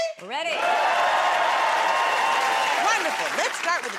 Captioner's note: cheers and applause